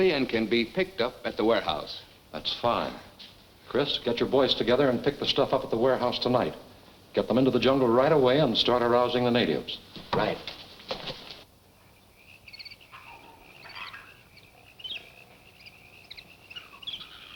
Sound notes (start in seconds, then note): 11.3 frogs and insects chirping